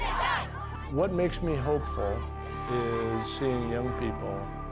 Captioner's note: chanting